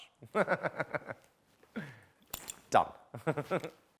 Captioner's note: laughing